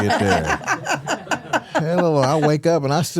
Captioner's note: hosts laughing